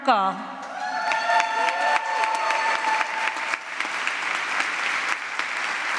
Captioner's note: applause